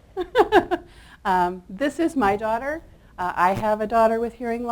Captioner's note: laughs